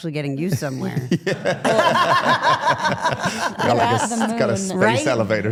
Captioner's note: participants laugh